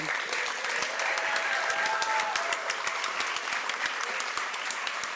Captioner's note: applause